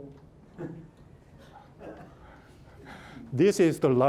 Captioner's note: murmuring from audience